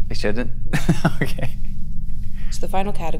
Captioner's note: laughs